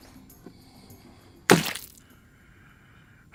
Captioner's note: splat!